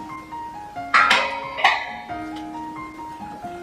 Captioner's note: sound of whacking tray with hammer